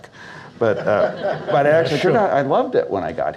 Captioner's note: audience Laughs